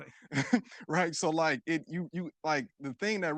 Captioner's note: chuckles